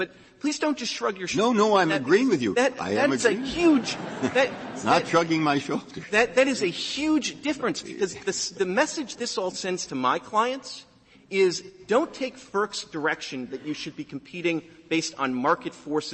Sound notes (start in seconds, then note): 3.2 laughter